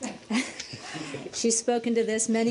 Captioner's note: laughter